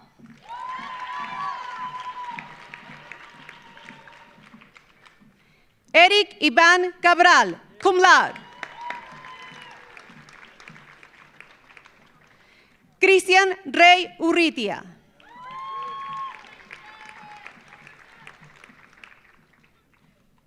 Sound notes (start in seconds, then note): 0.2 audience applauding; 0.3 audience cheering; 8.2 audience cheering; 8.2 audience applauding; 15.2 audience cheering; 15.2 audience applauding